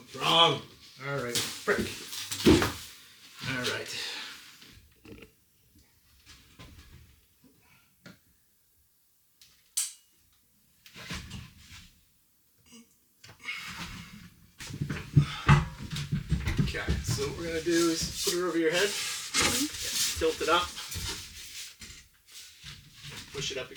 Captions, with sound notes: All right, all right. (sighing) Okay, so what we're gonna do is put it over your head, tilt it up, push it up